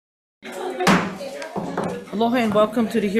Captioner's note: indistinct background chatter